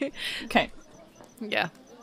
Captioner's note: evening ambience continues. Crickets, footsteps, and soft voices